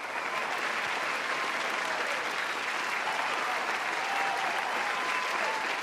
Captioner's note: applause